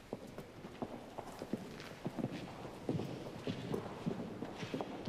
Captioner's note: footsteps departing